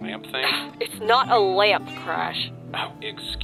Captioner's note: scoff